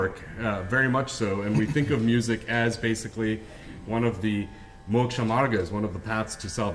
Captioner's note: hindi